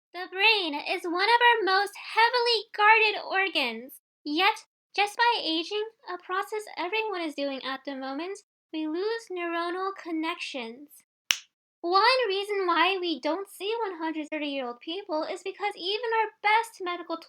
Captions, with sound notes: The brain is one of our most heavily-guarded organs. Yet, just by aging, a process everyone is doing at the moment, we lose neuronal connections. *snap* One reason why we don't see 130 year old people is because even our best medical